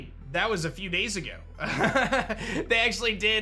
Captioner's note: laughs